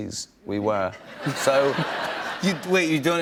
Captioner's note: laughter